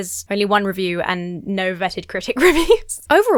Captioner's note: laughs